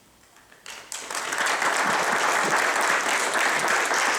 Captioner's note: audience applauding